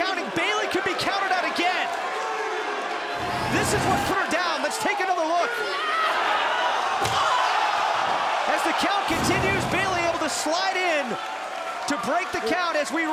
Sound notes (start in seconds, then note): 4.3 crowd chatter